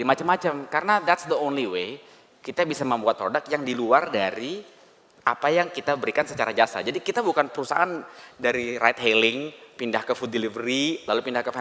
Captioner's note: non-english speech